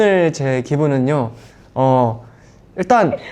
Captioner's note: inhale